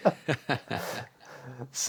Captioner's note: laughs